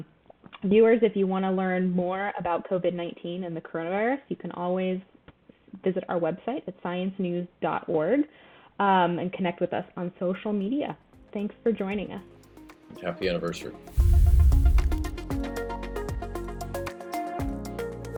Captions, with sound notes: Viewers, if you want to learn more about Covid-19 and the coronavirus, you can always visit our website. That's science news.org, and connect with us on social media. Thanks for joining us. - Happy anniversary. (air whooshing) (upbeat music)